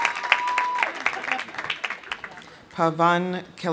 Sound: audience applauding; audience cheering; laughs

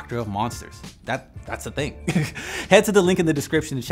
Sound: laughs

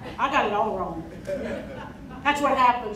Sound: crowd laughing

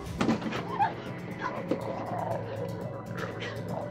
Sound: exclaiming; thudding; snarling

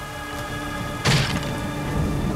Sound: thud

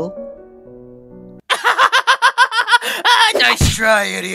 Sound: laughs in robber

